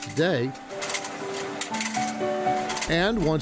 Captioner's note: gentle music; machine whirring